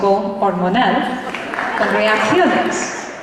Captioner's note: laughter